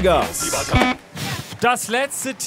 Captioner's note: buzzer